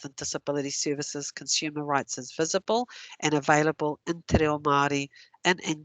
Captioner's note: non-english